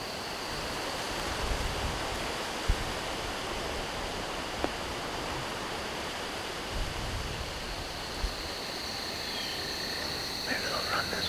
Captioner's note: wind